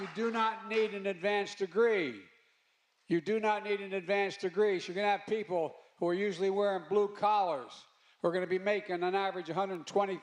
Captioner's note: applause